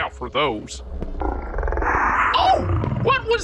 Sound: growl

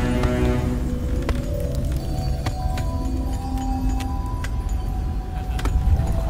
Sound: dissonant bells, and fire crackling; faint male laugh in the distance

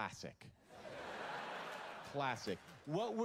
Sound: laughter

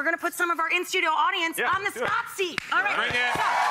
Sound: audience cheers

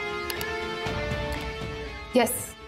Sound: typing sound

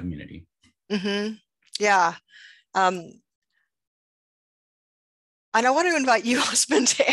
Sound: laughs

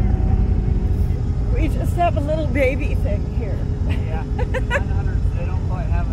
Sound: laughing

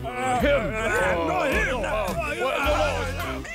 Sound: all chattering

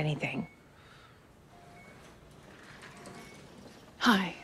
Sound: wheels squeaking

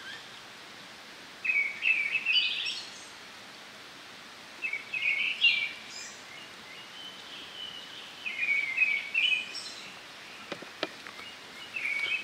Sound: birds singing

